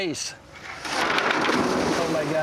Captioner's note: splash